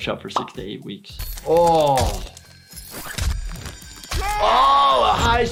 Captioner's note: metal rattling and crunching